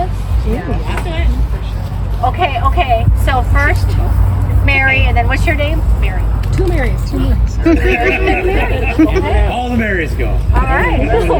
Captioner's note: laughter